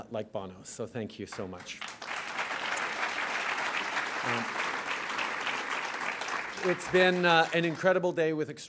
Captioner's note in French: Applaudissements